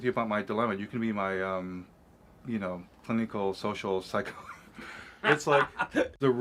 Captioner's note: Gülüyor